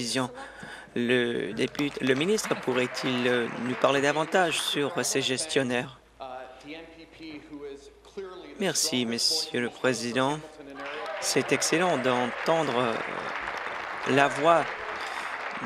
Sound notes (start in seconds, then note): 4.3 applause